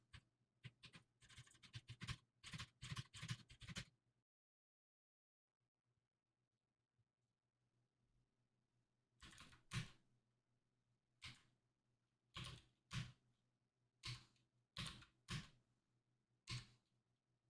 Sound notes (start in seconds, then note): 0.7 typing sounds